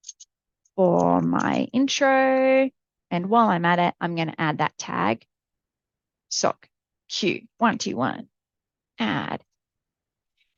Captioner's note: clicks